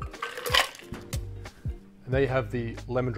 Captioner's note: ice clinking